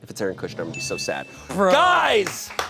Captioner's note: chime dings; audience members clapping